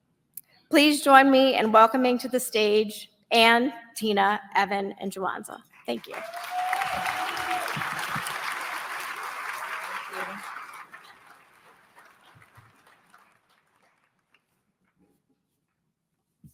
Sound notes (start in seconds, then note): 6.5 applause